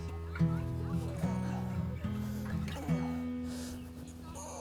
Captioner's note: grunting